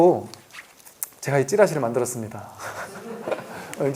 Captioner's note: laughs